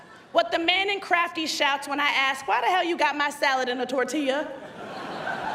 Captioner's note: laughter